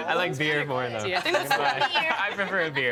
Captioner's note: others laughing